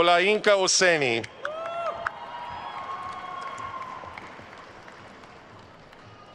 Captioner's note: attendees cheering and applauding